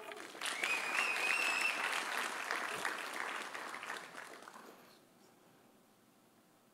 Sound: audience applauding; audience cheering

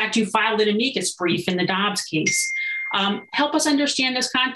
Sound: notification dings

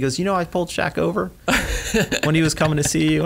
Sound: laughs

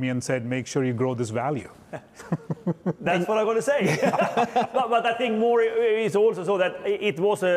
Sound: chuckles

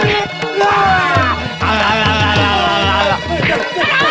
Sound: chattering Teeth

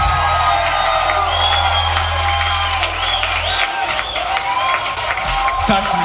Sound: cheering

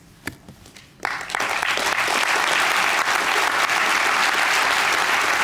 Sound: applause

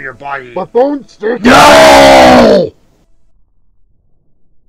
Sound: earrape

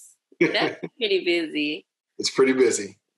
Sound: laughing

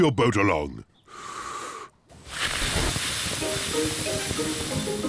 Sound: inhales, blows

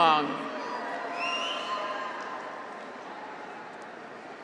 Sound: graduates cheer

